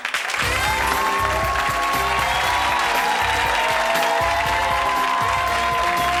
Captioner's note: audience applause; jazzy music